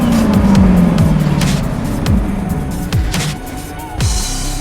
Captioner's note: upbeat techno music; wind whooshing; engine roaring